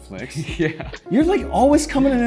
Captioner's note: chuckles